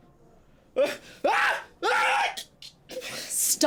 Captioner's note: Alan screaming